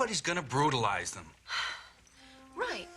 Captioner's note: Marilyn sighs